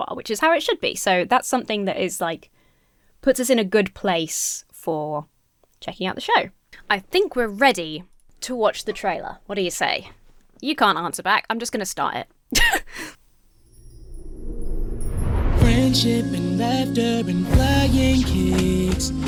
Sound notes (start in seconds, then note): 12.5 laughs; 13.6 uplifting music